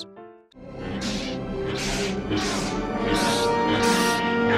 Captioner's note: buzzing and grunting